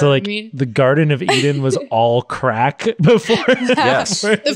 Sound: laughs

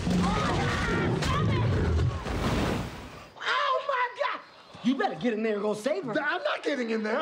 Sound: screams

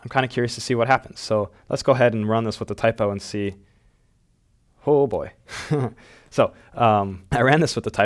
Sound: chuckles

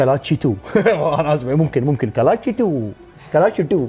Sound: in Indian accent

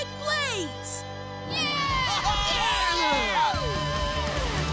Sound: cheering

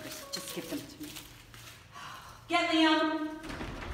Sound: sighs

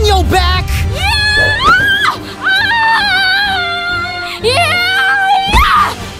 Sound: screams

